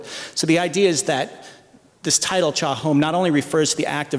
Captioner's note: non-english speech